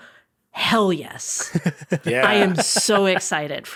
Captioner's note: chuckling